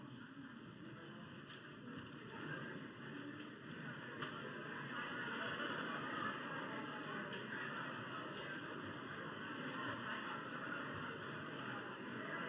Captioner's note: crowd murmuring